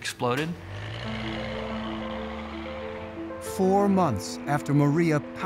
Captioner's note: engine revving